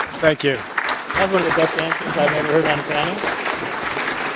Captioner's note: applause